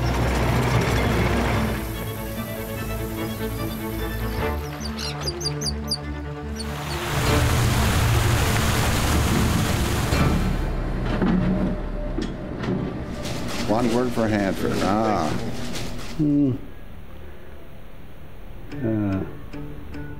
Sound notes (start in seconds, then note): 0.1 sound of equipment moving debris; 2.0 nature sounds; 6.4 sound of water spraying; 10.4 sound of heavy equipment moving debris